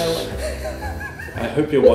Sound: laughter

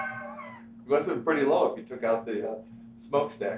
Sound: laughing

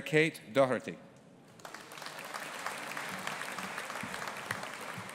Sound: audience applauding

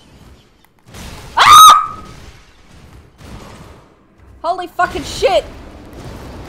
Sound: scream

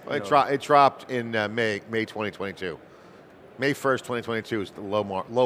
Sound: none

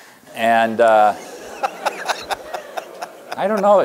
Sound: laughter

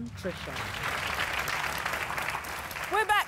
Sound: audience applause

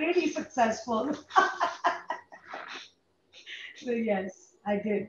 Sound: laughs

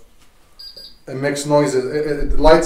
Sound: device beeping

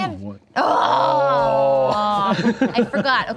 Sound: groans

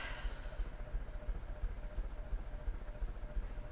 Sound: sighing

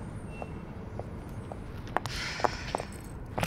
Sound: sighs

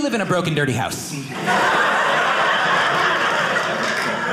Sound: audience laughing

